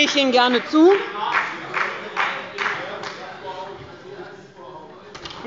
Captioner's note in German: Beifall bei Abgeordneten des BÜNDNISSES 90/DIE GRÜNEN